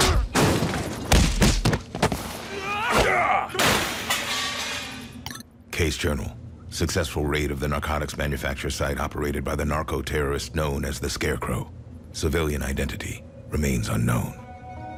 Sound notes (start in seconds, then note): 0.3 crashing, beating; 2.5 yelling, grunting